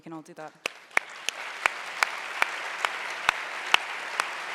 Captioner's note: audience cheers